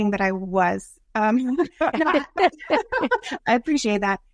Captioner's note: laughing